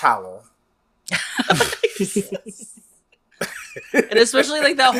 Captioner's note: laughs